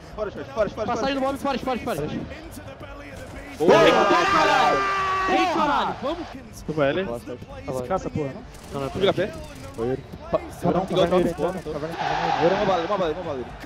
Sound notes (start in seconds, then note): 3.6 Furia’s team celebrating the round won